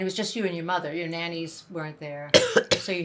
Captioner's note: coughing